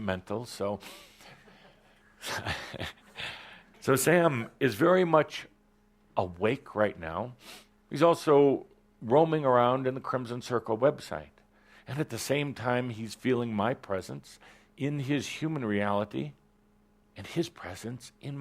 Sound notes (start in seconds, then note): 0.8 chuckles